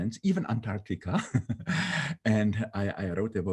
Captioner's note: laughing